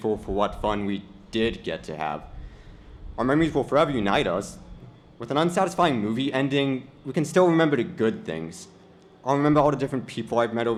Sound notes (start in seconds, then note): none